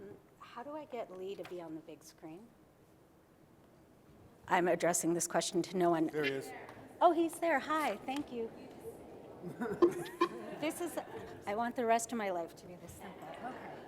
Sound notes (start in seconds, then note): 6.4 voiceover; 9.4 laughs